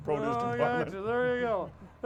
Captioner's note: chuckles